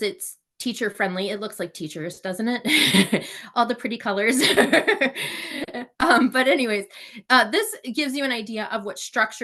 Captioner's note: laugh